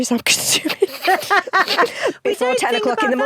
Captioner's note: both laugh